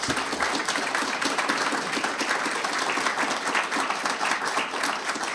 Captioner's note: audience applauding